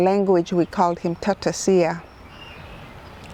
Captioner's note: speaks in foreign language